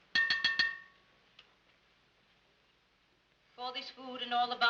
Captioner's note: clanging on pot